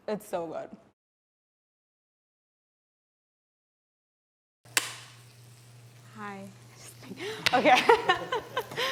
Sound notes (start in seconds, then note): 4.7 clapboard clapping; 7.6 laughs